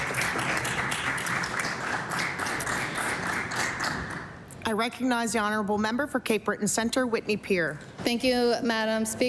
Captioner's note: applause